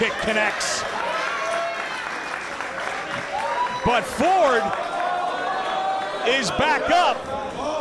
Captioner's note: applause